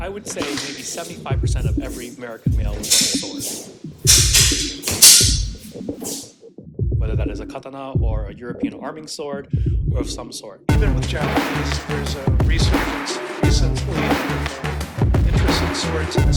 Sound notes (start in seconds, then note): 4.0 swords Clanging